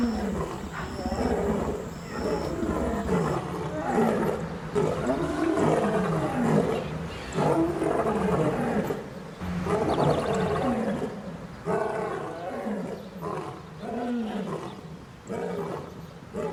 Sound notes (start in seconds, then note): 3.2 lion’s roar